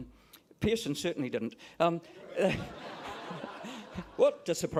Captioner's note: laughter